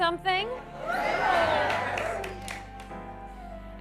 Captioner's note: cheer